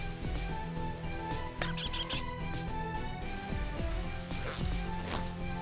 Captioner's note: squeak